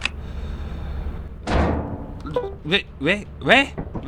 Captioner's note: ship makes noise